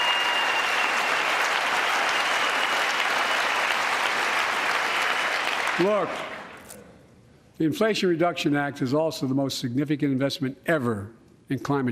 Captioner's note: applause